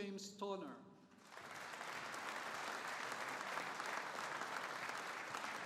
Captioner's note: audience applauding